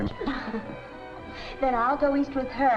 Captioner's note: laughing